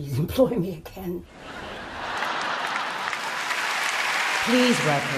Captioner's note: audience laughing and applauding